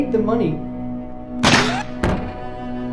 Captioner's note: gunshot